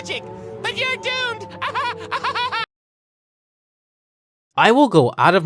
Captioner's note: maniacal laughing